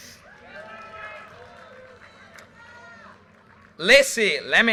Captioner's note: audience cheers and applause